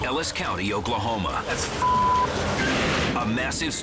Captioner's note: beep